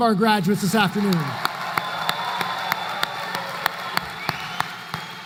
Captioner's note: applause